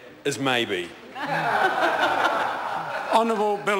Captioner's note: members laugh loudly